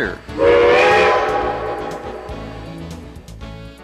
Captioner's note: train hoots